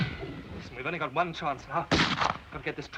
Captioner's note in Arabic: إطلاق نار; طلقة نارية